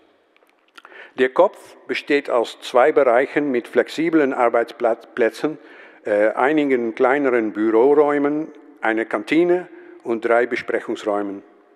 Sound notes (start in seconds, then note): none